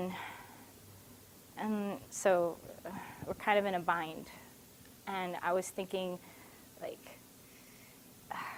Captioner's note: sigh